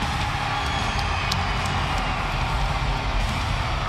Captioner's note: audience cheers